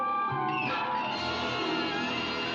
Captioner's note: suspenseful music; door squeaks open; dramatic suspenseful music